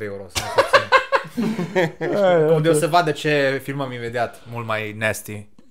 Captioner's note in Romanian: Râsete